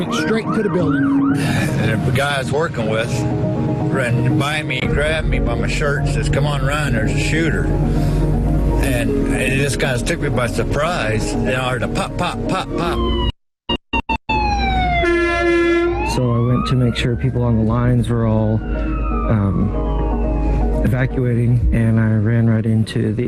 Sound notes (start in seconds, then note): 13.9 siren wailing; 14.9 horn honking